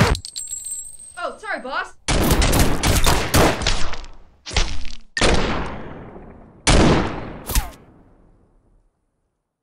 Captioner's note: gunshots